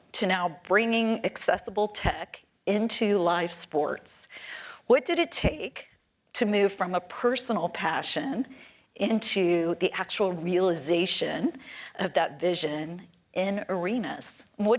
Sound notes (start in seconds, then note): none